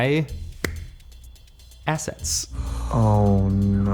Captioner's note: claps hands